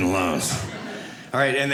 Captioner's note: audience laughing